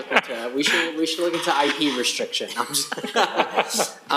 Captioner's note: laughter